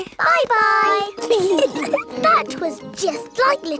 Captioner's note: giggling